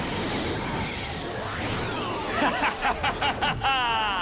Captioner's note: laughing evilly